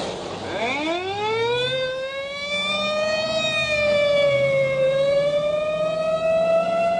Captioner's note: siren